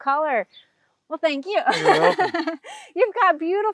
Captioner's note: laughs